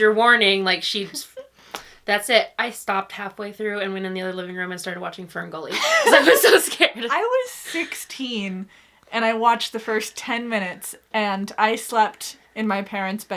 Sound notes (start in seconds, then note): 5.8 laughs